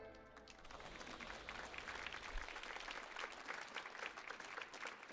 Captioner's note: audience applauds